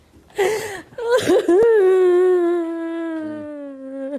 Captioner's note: crying